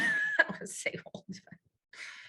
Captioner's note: laughing